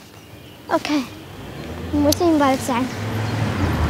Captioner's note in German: Motorbrummen